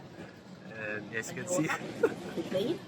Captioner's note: chuckling